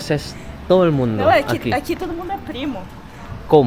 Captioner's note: Spanish; Spanish